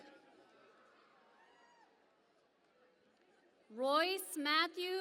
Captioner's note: cheering and Applause